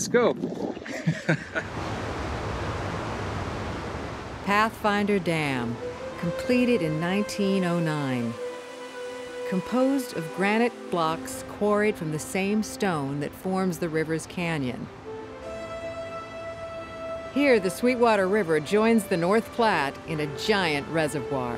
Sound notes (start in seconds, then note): 0.8 laughter; 1.5 waterfall